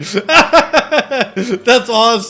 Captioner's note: laughing